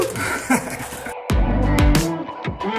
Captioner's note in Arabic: يضحك